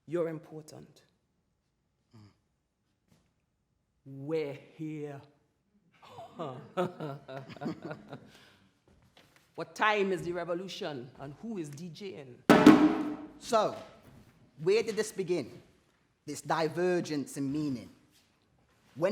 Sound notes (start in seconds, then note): 6.0 laughs; 12.5 double drum hit